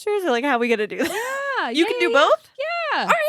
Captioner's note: laughs